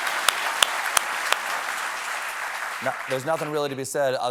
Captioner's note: applause